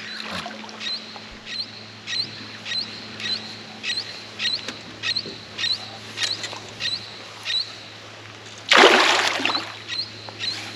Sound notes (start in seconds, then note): 3.2 bird calling; 8.6 fish splashing